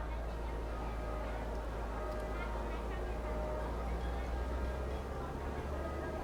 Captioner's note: people chatting